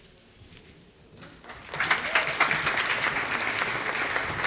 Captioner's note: applause